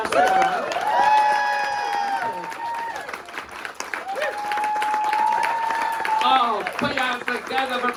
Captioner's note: cheers and applause